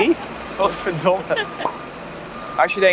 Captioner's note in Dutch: lachend